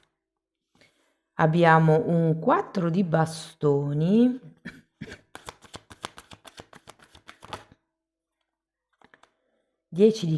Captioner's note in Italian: schiarire la voce